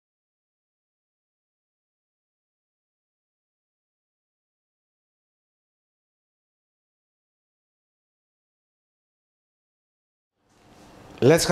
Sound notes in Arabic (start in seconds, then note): 1.4 بدون صوت